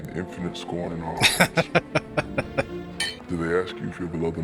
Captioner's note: laughing